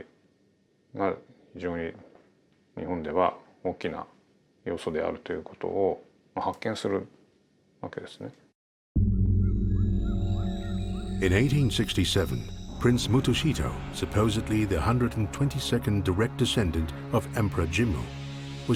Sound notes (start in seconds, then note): 9.2 soft ominous music; 9.7 birds chirping